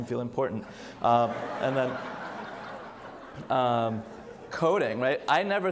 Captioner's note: audience laughs